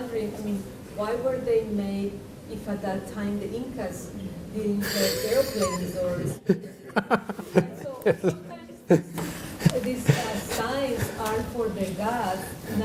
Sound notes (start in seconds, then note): 6.7 laughs